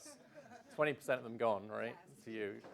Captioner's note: laughs